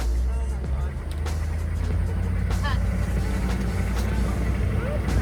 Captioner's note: car engine hums